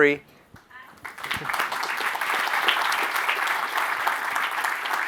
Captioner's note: audience applauds